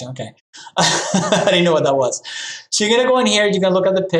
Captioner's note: laughs